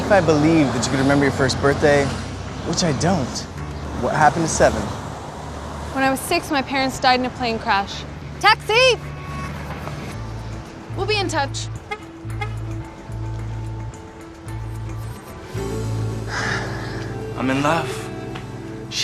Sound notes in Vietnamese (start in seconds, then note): 11.8 còi xe; 16.2 thở phào